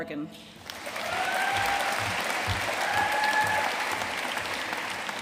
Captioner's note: audience cheering and applauding